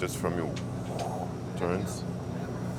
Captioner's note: expels breath